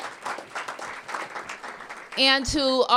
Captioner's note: applause